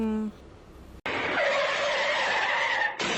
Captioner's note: car crash noise